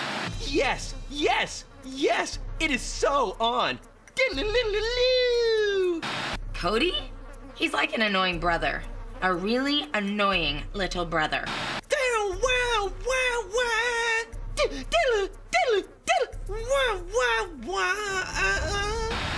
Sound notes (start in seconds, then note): 4.0 Cody making Guitar noises; 12.0 continues making Guitar noises